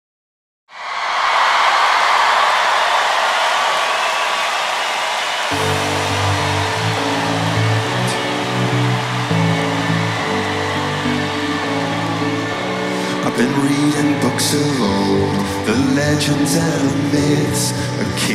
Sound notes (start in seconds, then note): 1.0 audience claps, cheers; 5.9 slow upbeat music